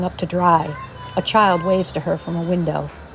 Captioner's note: excited child shouting